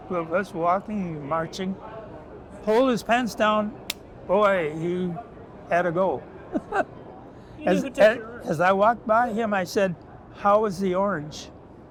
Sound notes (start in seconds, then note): 3.7 claps hands; 6.5 laughs